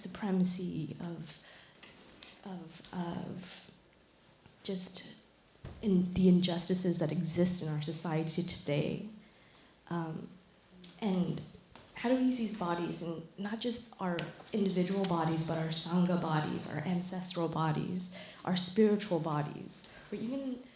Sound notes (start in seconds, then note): none